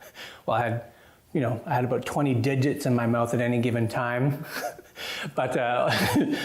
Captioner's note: laughs